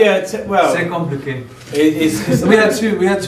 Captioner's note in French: français